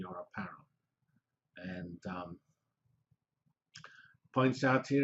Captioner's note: pause